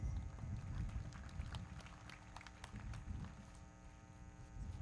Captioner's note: everybody clapping